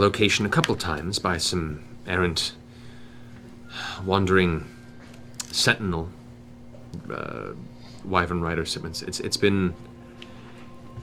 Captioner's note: sighs